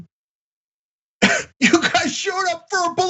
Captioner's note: laugh